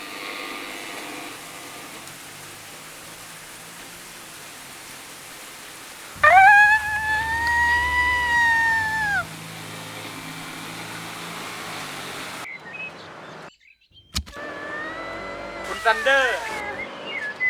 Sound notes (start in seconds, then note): 6.1 screaming